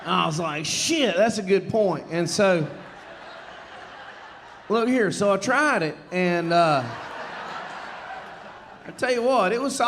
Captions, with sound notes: And I was like, "Shit, that's a good point." And so... (audience laughing) Look here, so I tried it, and... (audience laughing) I tell you what,